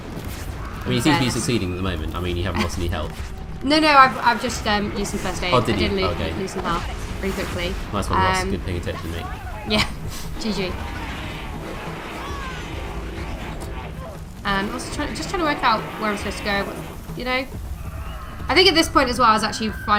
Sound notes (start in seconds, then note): 12.4 laugh